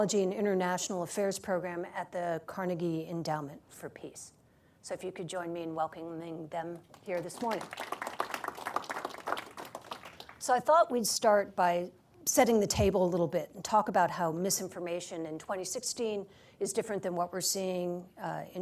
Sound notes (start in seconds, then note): 6.8 applause